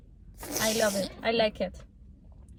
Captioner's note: slurp